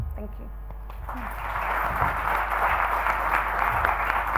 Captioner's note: audience claps